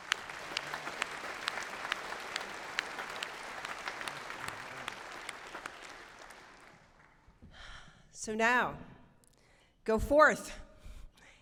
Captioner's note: applause